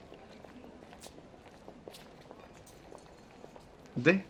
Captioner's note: footstops nearby